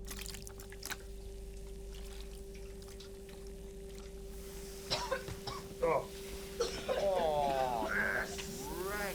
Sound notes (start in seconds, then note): 0.8 fizzing and hissing; 4.8 coughing